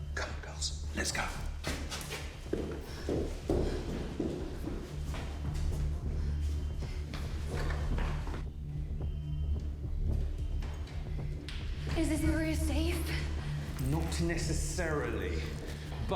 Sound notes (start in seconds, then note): 2.4 dramatic music; 5.4 alarm blaring; 10.0 dramatic music